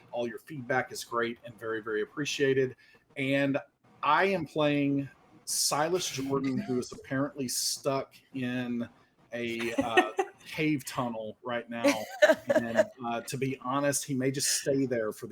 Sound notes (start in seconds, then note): 9.5 laughing